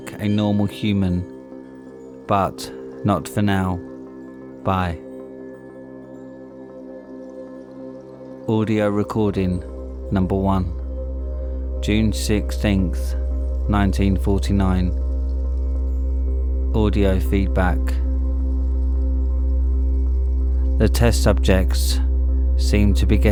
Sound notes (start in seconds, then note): 13.3 audio feedback